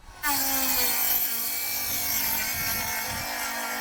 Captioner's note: saw buzzing